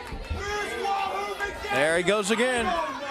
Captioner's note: crowd chatter